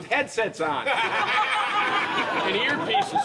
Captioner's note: all laugh